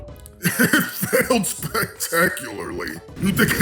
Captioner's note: laughing